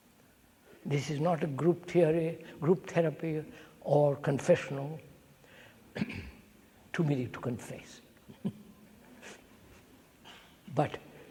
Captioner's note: laughs